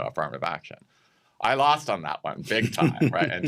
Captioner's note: chuckles